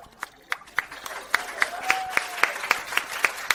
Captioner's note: clapping